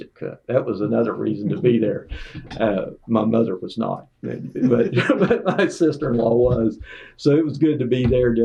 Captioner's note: laughter